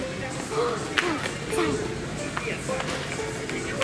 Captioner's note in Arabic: الشهقات